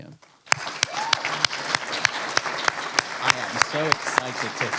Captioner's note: applause